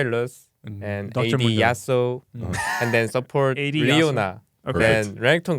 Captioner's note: laughs